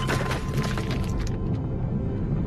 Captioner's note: thud